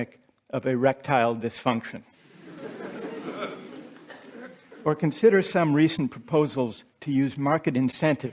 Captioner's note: laughter